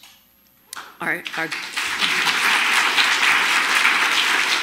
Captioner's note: audience clapping